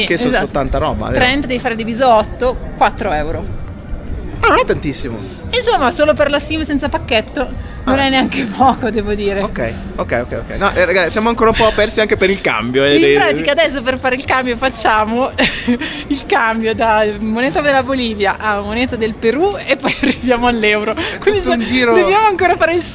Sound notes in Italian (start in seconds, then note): 15.4 risate